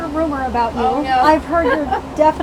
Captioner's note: chuckling